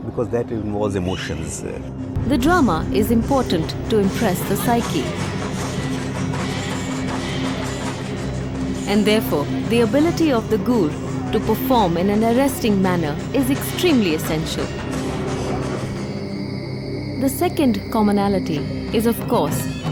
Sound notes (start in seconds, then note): 5.3 dramatic music; 15.6 crickets chirpping